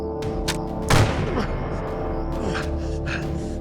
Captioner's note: gun fires, groan